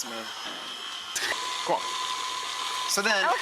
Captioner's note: mixer whirring